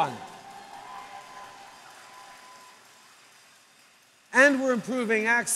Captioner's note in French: Applaudissements